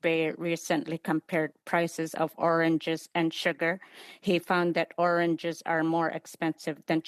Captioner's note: speaking Indigenous Language